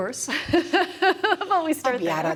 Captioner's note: laughs